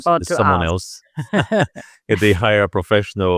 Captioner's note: both laughing